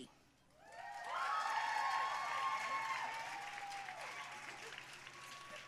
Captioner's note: audience cheering and applauding